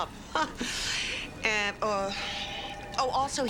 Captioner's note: Nora laughs